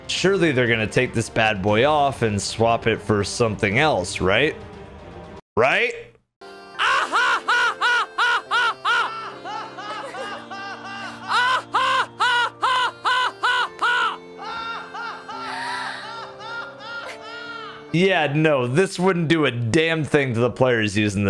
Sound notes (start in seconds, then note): 6.7 final fantasy 10 ahahaha laugh